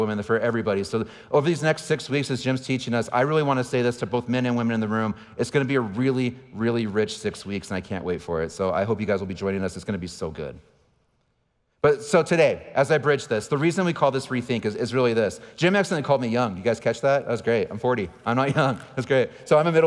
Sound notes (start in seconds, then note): 18.2 laughing